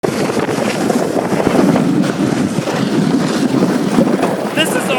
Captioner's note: wind blowing